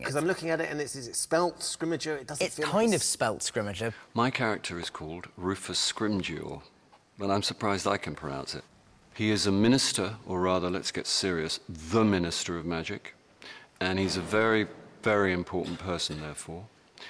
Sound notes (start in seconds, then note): none